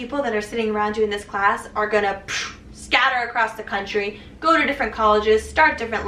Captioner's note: poof